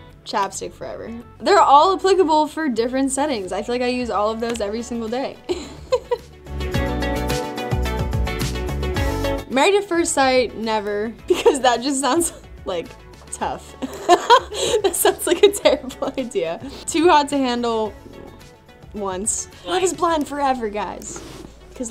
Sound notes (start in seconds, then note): 5.5 laughs; 6.3 groovy, cheery music; 13.8 laughs